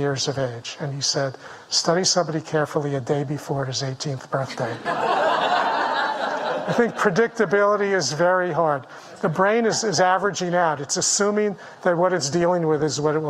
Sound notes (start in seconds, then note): 4.5 audience laughing